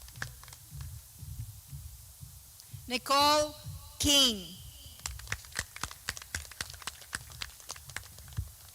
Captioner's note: clapping